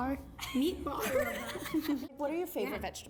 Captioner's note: laughing